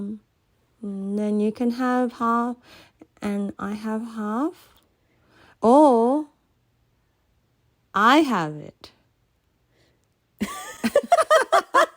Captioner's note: laughter